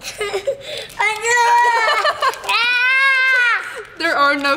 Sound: laughing; shouting

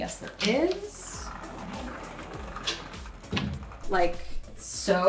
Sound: upbeat music; door sliding

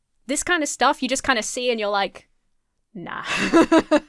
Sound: laughs

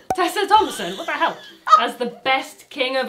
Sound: cork popping

